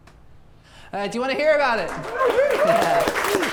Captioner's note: audience applauds